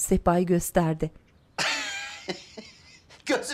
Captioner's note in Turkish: Gülme sesi